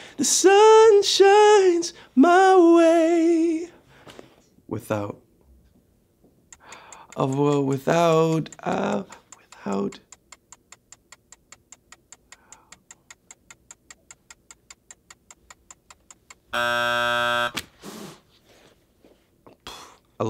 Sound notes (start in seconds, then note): 10.6 clock ticks; 16.5 buzzer goes off